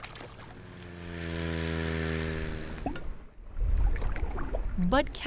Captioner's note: chainsaw buzzing